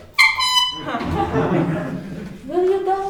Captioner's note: horn tooting; crowd oohing